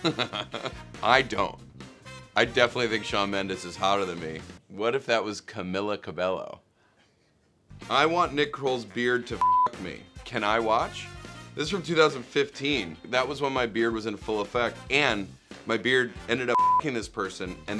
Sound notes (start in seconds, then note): 0.0 laughs; 9.4 beep; 16.5 beep